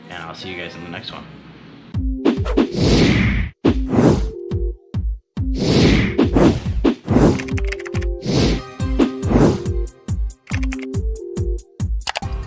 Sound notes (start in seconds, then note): 2.1 animations whooshing; 2.1 bouncy music; 7.5 keys clacking